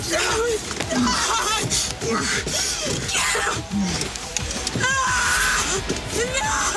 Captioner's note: Jodie groaning; Graham grunting; Jodie screaming